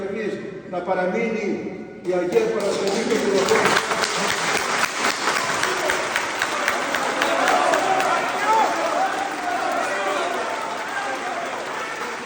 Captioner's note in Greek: χειροκρότημα